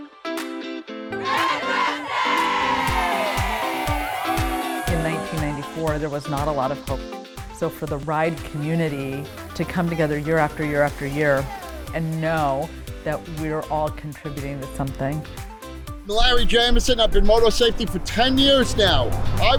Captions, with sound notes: (crowd cheering) - In 1994 there was not a lot of hope so for the Ride community to come together year after year after year and know that we are all contributing to something. - Larry Jameson, I've been motor safety for 10 years now,